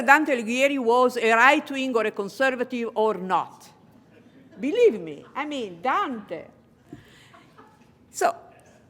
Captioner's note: laughter